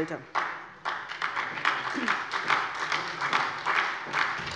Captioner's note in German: Beifall bei der SPD